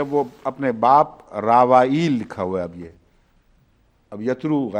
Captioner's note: in English